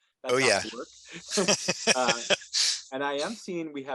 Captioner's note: laughing